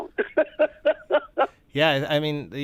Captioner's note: laughter